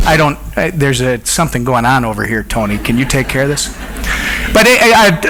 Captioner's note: audience laughs